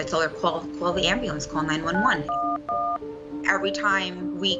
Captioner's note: phone buttons beeping "911"